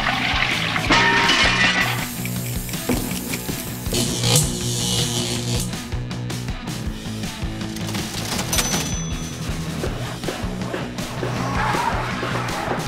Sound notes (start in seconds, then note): 0.8 tools working; 7.7 cash register